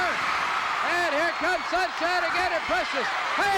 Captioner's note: audience cheering